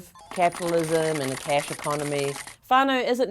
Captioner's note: clicking